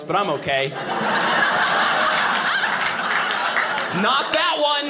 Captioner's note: audience laughing